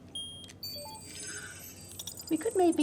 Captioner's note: scanner beeps; electronic whoosh